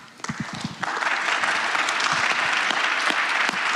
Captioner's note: applause